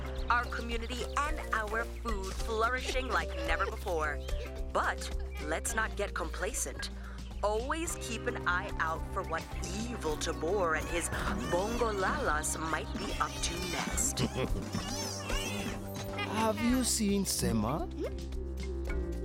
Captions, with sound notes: Our community and our food flourishing like never before. -But let’s not get complacent. -[children playing] Always keep an eye out for what evil Tobor and his Bongolalas might be up to next. [Tobor chuckles evilly] -[chuckles] -Have you seen Sema?